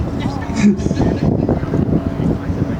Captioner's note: laughter